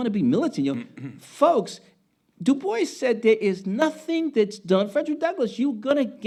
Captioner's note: speaking Spanish